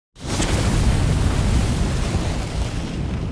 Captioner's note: flames sizzle